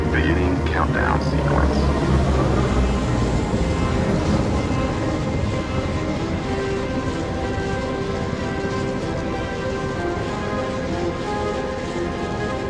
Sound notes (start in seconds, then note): 2.1 portal thrums